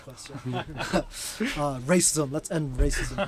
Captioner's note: both chuckling